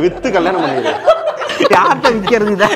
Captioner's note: laughter